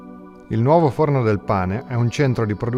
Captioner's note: speaking italian